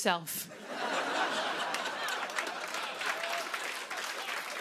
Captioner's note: laughter and applause